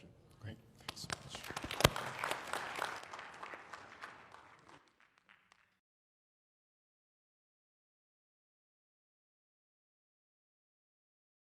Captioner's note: applause